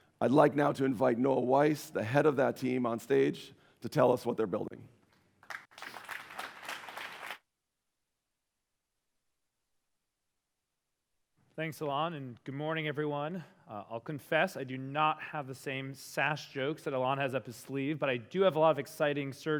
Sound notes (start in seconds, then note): 5.4 applause